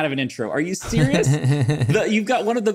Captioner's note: laughs